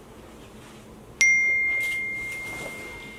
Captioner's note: notification Bell